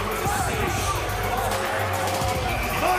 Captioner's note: fans chanting